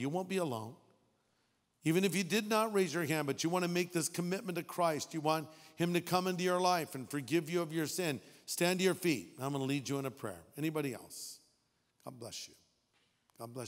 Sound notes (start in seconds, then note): none